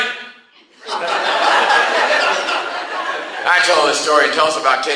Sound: class laughs

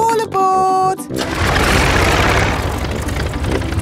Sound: plane engine starts

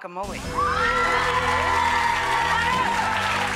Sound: audience cheering; haunting organ music

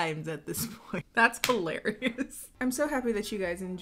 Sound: laughing

